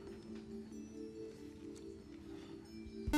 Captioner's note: beep